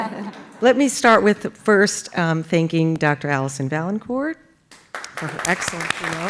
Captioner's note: laugh